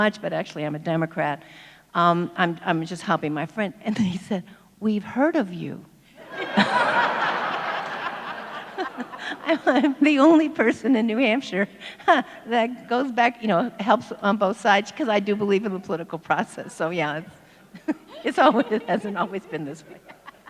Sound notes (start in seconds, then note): 6.2 audience laughs; 12.1 laughs